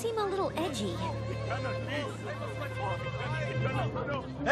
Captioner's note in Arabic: ثرثرة بعصبية